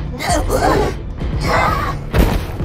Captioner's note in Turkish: Bonnie bağırıyor